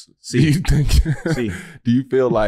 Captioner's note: chuckles